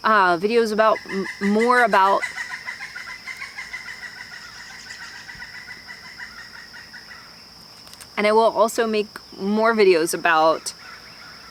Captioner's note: loud bird chirping